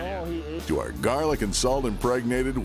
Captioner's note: voiceover